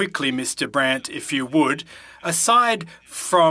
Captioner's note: speaking French